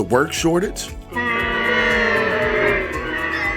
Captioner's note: jeers